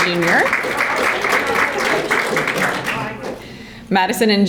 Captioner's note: audience applauding